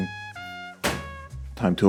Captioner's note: package plops